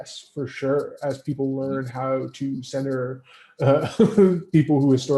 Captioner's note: laughs